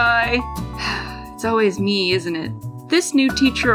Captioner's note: sigh